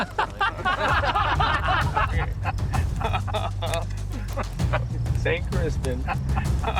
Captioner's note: laughter